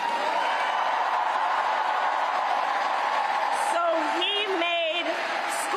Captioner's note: cheers and applause